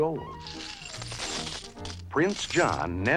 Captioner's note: coins rattling